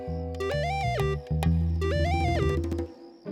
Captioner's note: electronic tone